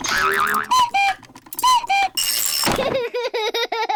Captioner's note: panting; clock cuckoos; laughs